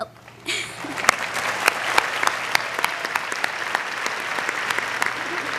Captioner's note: applause